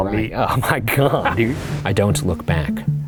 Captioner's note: chuckles